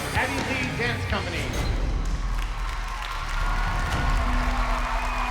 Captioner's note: cheering